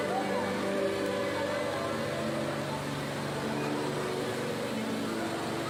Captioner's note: cheerful instrumental music; congregants chattering